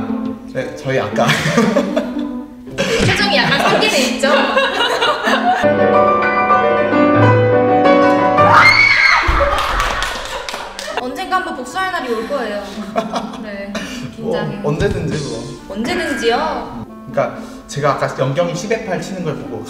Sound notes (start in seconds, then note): 1.3 dying in laughter